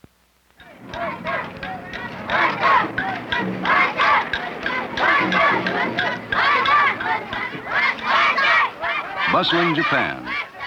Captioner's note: japanese chanting